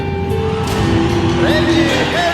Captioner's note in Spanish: Público Gritando y aplaudiendo